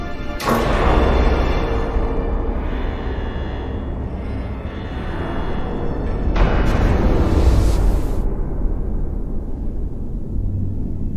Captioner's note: metal clanking, alarms; air being sucked out